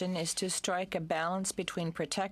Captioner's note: speaking in french